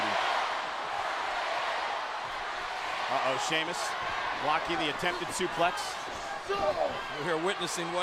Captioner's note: applause